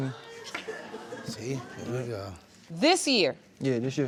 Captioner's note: audience exclaiming